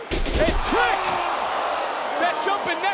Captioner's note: Ethan screams